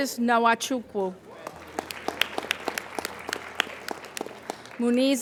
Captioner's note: applauding